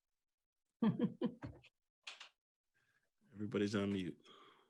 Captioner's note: chuckles